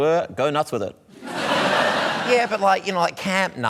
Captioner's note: laughter